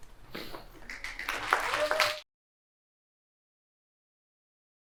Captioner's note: applause